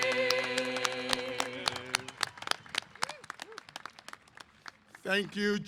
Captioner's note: applause